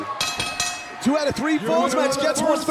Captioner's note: bell ringing